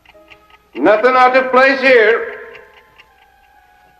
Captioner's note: ticking continues